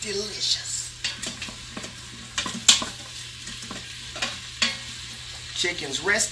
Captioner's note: spoon hitting against pot